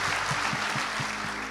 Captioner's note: audience applauds